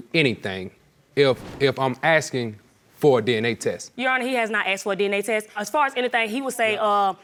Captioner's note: none